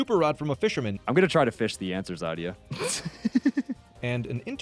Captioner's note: laughing